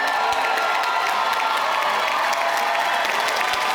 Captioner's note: clapping